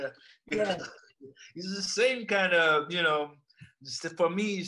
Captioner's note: laughs